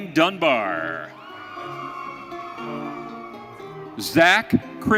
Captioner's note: audience cheering